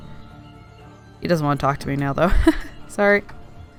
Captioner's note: laughs